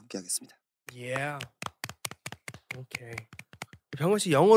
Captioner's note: clap clap clap